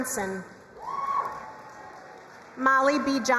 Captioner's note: crowd cheering and applauding